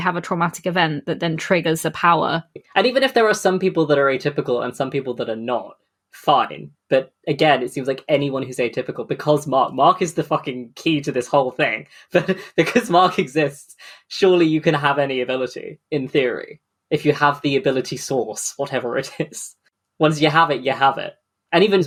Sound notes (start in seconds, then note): 12.1 laughing